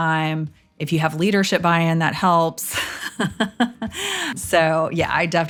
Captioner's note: laughs